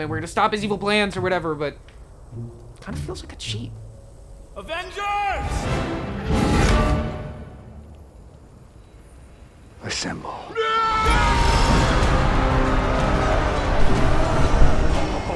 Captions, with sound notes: and we're going to stop his evil plans or whatever, but it kinda feels like a cheat. - Avengers! (dramatic instrumental music) Assemble. (Avengers yell)